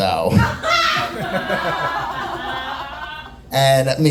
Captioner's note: audience laughing